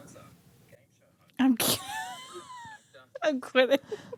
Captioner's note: laughs